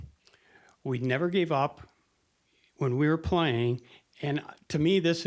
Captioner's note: none